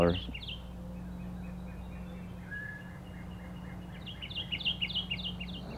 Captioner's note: nature sounds